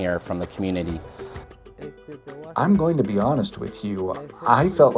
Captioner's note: Spanish